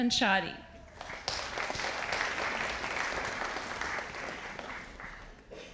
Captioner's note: audience applauding